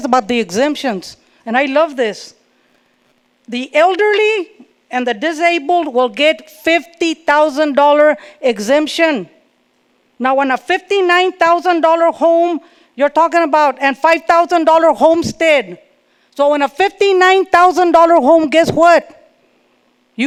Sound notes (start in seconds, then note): none